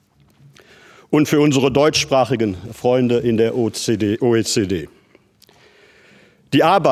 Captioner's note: speaks german